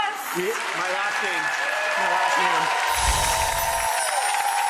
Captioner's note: applause